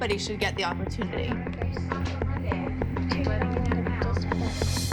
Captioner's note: chatter